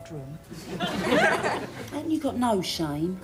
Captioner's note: audience laughing